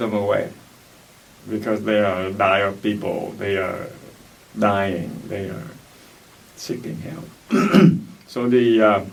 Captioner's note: clears throat